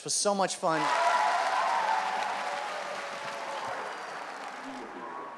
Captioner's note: audience claps